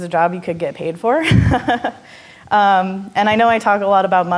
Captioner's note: laughing